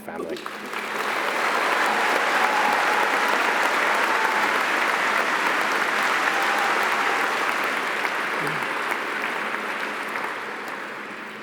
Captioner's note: audience applauding